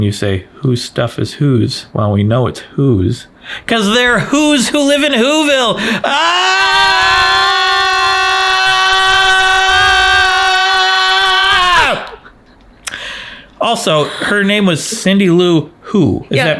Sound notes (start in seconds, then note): 4.9 yell